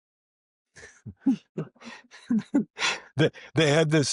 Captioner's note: chuckles